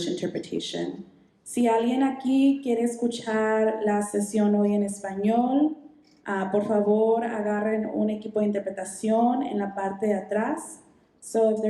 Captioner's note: speaking Spanish